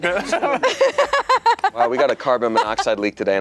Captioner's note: laughing